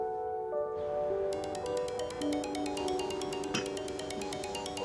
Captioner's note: phone rings